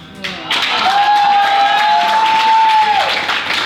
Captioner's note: applause